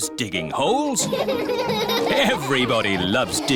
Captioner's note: all laughing